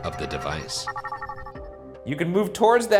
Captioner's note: device chiming